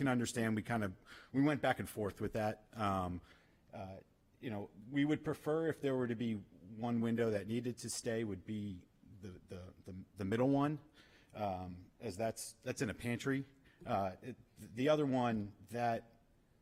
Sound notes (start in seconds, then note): none